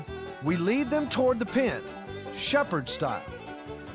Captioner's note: none